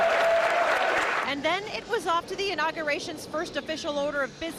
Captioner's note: cheers and applause